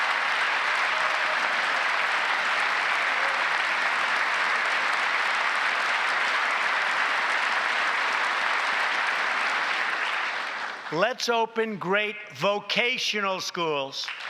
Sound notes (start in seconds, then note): 4.3 applause